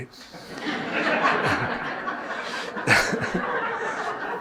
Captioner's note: audience laughing